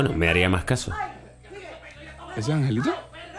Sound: moans

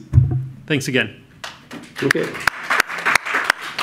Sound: audience applauds

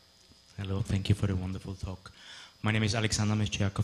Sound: voiceover

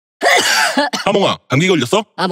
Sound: cough

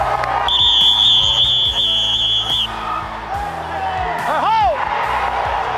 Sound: cheering; whistle

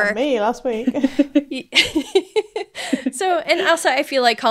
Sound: laughing

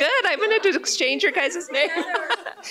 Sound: laughter

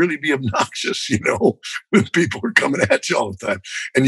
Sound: laughter

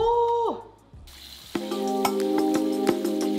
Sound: tap water jetting; soothing music

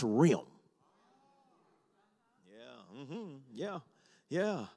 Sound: congregation murmurs

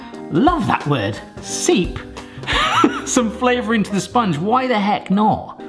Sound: laughing

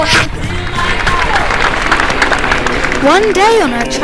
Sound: applause

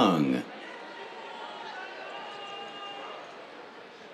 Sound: cheers

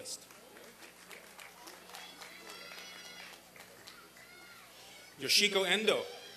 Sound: applause and cheering

